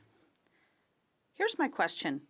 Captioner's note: speaking French